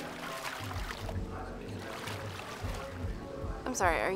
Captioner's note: splashes